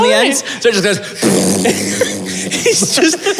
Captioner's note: thrrrrp